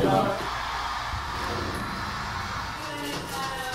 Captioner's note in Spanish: Bang